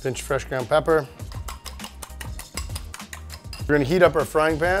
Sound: stirring

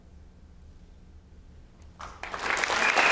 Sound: applause

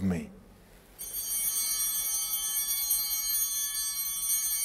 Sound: altar bell ringing

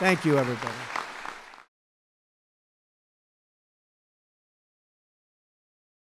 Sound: applause

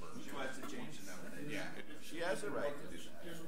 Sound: overlapping chattering

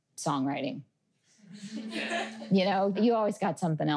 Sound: laughter

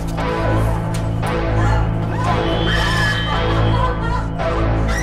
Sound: agonized Scream

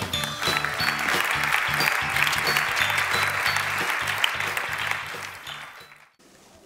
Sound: applause

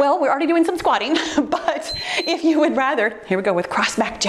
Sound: timer beeps

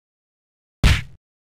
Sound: kick sound effect

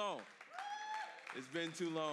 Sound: congregation cheers

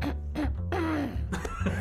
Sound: mellow funky music; clearing her throat; multiple people laughing

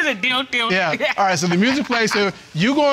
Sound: mimics sexual music

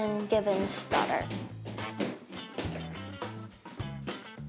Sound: footsteps

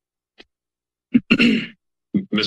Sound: clears throat

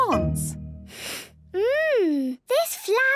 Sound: sniffs

